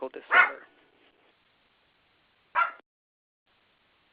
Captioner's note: dog barks